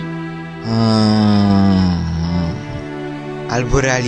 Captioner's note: moan of embarrass